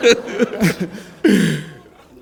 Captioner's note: laughter